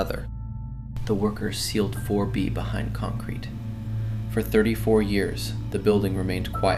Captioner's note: quietly